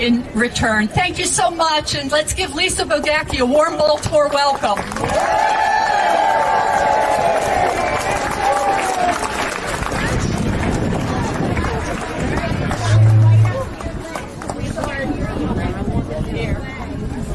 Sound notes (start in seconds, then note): 6.1 applause